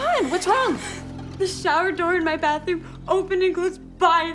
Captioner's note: cries